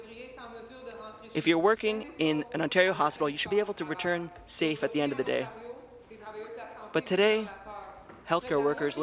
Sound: speaking in French

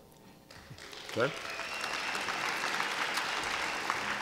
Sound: applause

